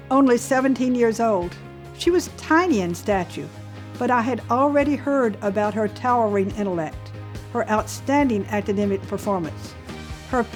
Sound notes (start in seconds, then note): none